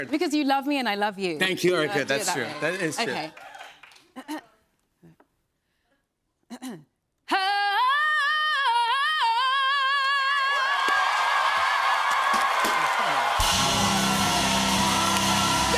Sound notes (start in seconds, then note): 4.1 clears throat; 9.8 cheers and applause